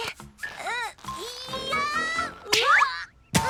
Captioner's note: Lizbeth grunts; leather creaks; both shout; Lizbeth grunts